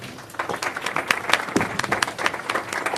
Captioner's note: applause